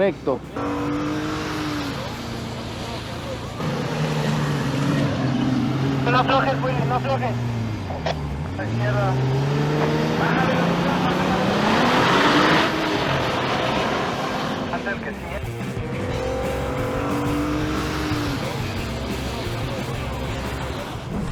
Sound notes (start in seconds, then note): 0.7 engine revving; 0.7 voice on radio